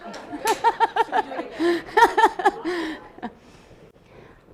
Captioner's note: laughs